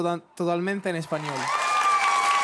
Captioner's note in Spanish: Público ovaciona